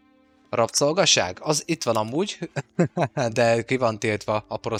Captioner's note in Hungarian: nevetés